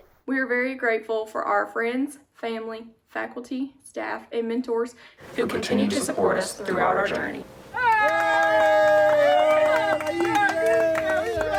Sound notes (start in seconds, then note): 7.7 cheering